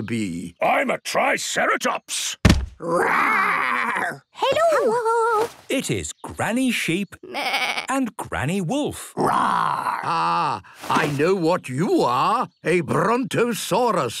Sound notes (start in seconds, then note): 2.4 thudding; 7.2 bleating; 9.2 roaring